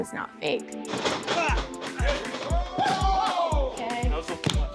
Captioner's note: man yells